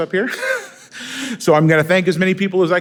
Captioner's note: laughing